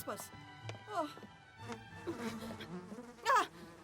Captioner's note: buzzing